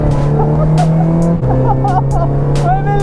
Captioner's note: me laughing